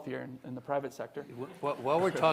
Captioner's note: audience laughing